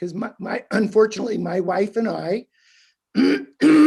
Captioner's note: clearing throat